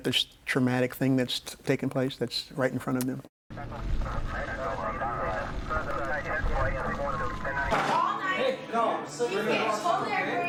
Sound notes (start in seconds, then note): 3.7 police chatter on radio; 5.3 siren wailing; 7.7 man and woman bickering